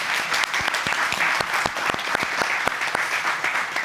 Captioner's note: audience applauding